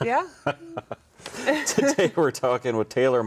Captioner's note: both chuckling